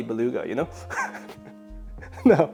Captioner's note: laughs